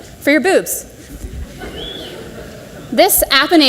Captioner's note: audience laughs